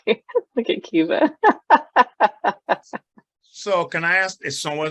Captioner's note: laughs